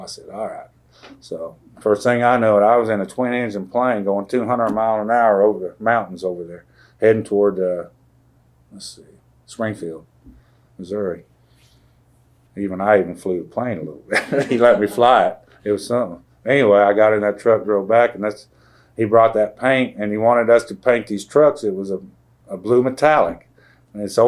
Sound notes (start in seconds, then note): 14.1 laughter